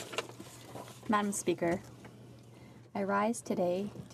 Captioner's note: speaking French